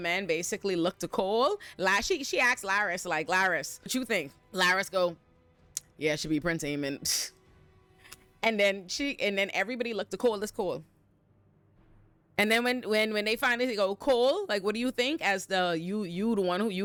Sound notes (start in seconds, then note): none